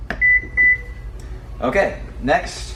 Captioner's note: beeping